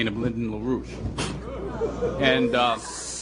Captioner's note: laughter